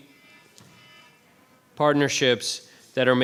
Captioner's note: phone alarm